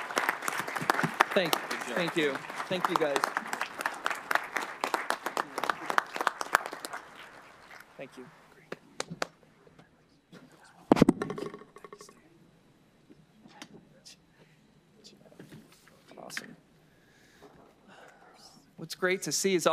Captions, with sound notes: AGENDA. THANK YOU ALL FOR BEING HERE. [ APPLAUSE ]. >> THANK YOU, GUYS.